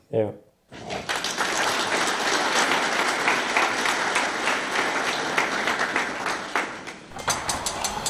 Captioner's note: applause